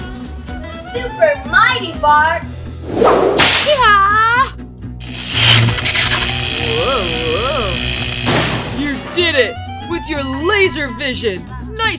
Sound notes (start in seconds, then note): 3.6 Wiggles exclaiming; 5.0 electricity crackling